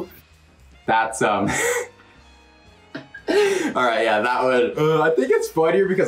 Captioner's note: chuckles